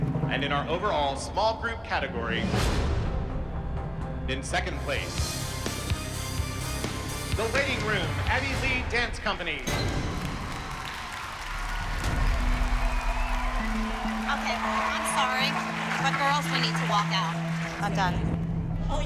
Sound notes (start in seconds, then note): 9.7 applause, cheering; 11.9 cheering, whistling